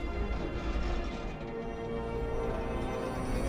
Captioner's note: metal groaning